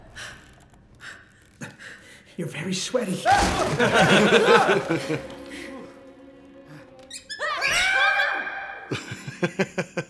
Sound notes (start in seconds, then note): 6.8 squeaks; 7.3 screams; 7.9 shouts